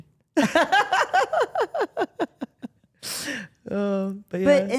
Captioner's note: Steph laughs